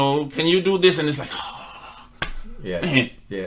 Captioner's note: groans